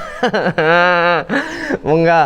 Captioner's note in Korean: 엉엉